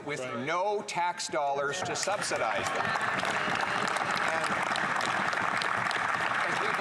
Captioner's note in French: voix de l'interprète